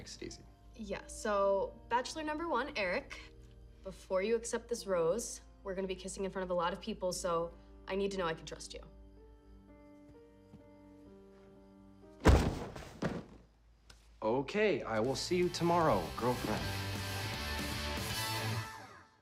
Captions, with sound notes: - Yeah, so, Bachelor Number One, Eric, before you accept this rose, we're gonna be kissing in front of a lot of people, so I need to know I can trust you. [thuds] - Okay, I will see you tomorrow, girlfriend. [upbeat rock music]